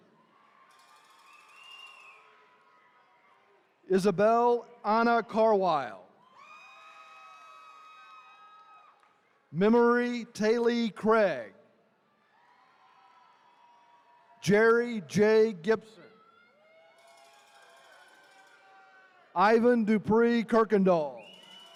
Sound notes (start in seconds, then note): 0.1 attendees cheering; 6.2 attendees cheering; 12.2 attendees cheering; 16.0 attendees cheering